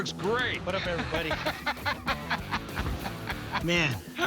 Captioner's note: laughing